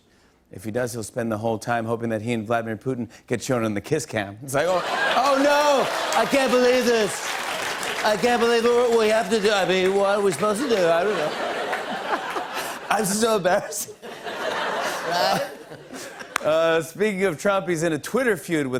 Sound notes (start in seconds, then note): 4.9 As Trump; 11.8 laughter; 16.8 normal voice